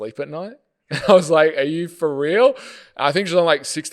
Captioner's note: laughing